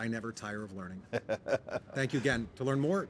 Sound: laughs

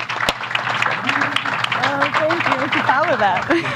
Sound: applause

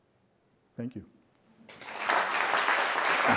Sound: applause

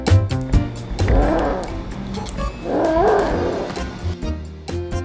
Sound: growls

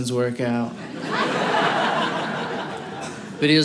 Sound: audience laughing

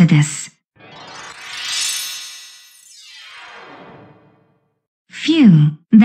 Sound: slowed down teleportation noises

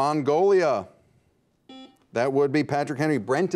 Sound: buzzer beeps

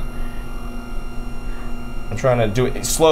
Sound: machine whirring continues

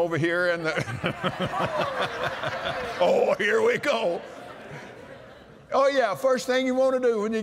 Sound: laughter

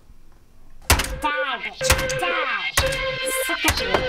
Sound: hammer clattering

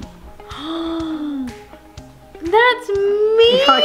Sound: mom gasping

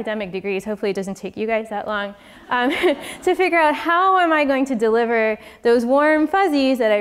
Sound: laugh

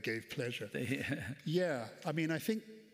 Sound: chuckles

